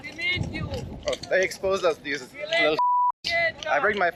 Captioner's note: beep